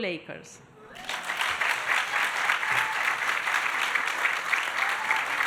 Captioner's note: audience applauding